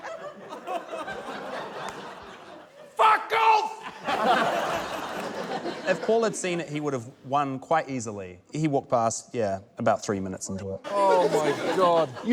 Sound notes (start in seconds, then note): 0.0 laughter continues; 3.8 laughter